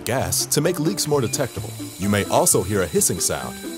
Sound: hissing noise

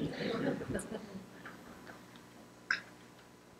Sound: laughter

